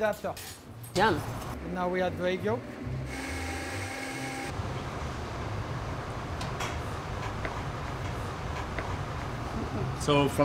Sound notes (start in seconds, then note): 3.1 blender starts